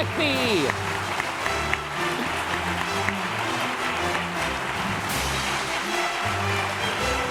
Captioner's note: applause; intense music